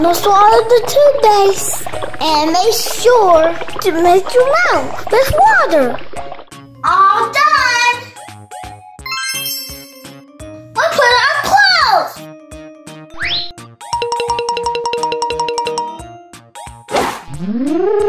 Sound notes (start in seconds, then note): 9.0 sparkling chime; 13.4 slide whistle sliding; 13.9 bells dinging; 17.4 scary monster noises